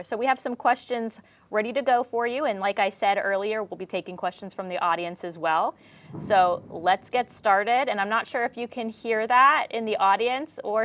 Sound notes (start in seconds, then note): 5.8 thunder rumbles